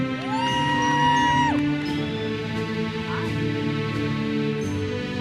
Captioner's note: audience member cheers